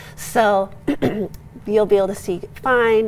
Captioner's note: clearing throat